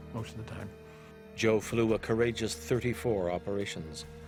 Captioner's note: voiceover